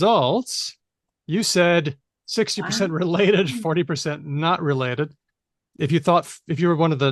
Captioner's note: chuckles